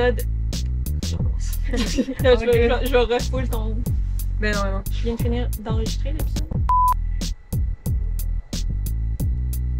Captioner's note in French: rires